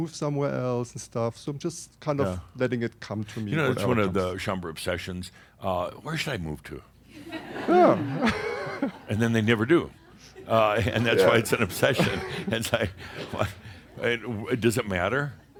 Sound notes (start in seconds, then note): 7.6 some chuckles; 7.6 he chuckles